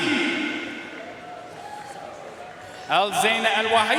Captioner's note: audience cheering and applauding